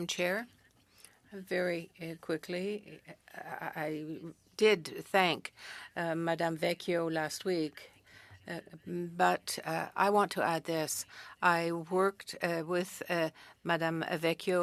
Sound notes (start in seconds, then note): 2.5 speaking French